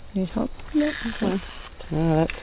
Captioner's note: buzzing